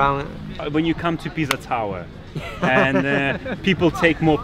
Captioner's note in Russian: смеётся